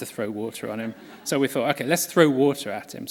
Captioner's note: laughter